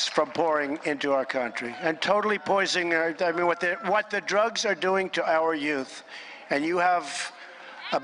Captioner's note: applause